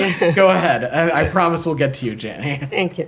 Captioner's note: laughter